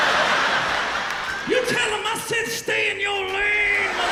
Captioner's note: laughter